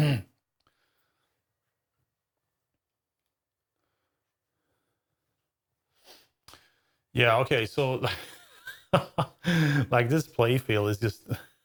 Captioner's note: silence